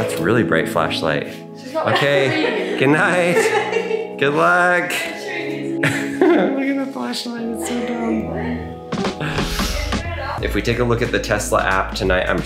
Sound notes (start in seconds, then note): 1.9 girls chuckling; 5.6 chuckles; 8.7 relaxing music; 9.3 girls chattering